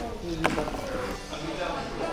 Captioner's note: slams the marker on the table